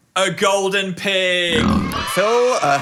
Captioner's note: pig oinking; kids cheering